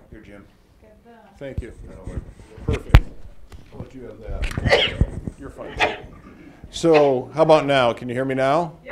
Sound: cough

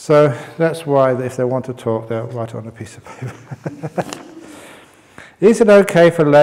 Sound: chuckles

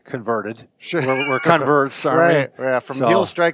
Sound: laughs

